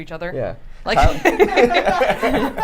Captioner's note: laughter